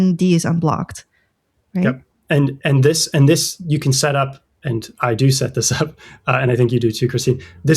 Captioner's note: uh